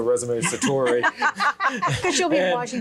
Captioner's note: group laughs